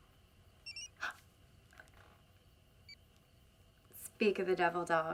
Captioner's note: phone bleeps